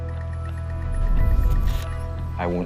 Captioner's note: loud rumbling